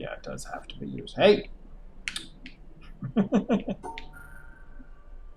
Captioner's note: chuckles